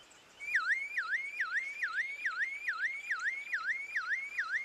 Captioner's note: alarm wails